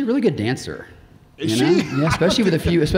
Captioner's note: laughs